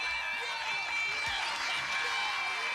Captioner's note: cheers and applause, bell dinging